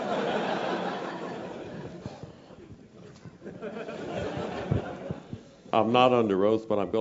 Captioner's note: laugh